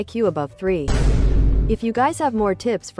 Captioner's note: Vine Boom Sound Effect